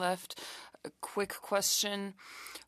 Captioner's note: speaking French